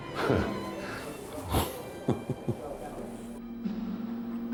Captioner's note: laughs to himself